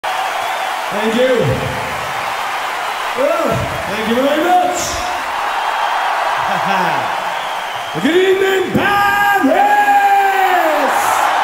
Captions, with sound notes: Thank you! Hello! Thank you very much! [laughs] Good evening Paris!